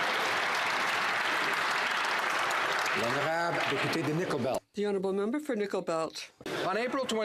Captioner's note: some Applause